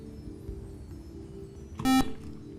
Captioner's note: buzzer